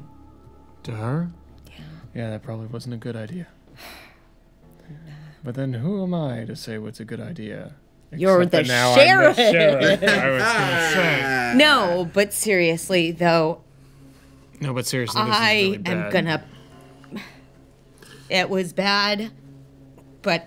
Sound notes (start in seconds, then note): 4.8 sighs; 9.0 laughter